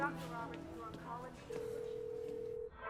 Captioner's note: phone ringing over blaring tv; line ringing